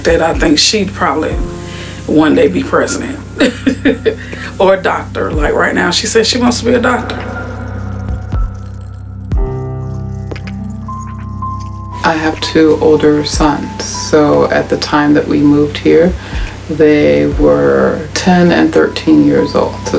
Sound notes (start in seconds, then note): 3.4 laughing; 9.0 light music